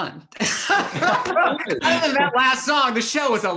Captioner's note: all laugh